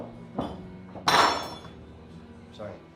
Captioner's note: clattering